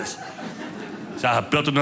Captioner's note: audience laughing